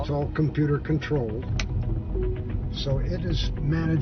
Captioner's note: click